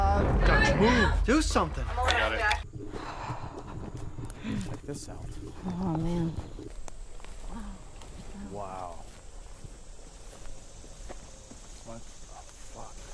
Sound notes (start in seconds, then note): 2.8 heavy breathing